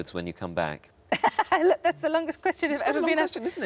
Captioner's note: laughs